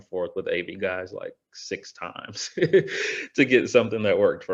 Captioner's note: chuckles